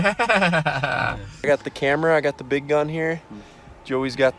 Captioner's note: laughs